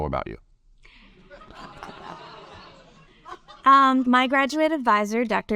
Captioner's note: audience laugh